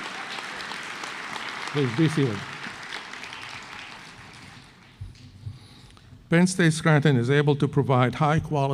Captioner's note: applause